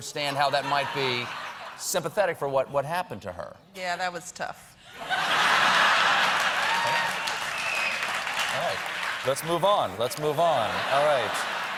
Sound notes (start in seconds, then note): 5.2 laughter; 5.8 applause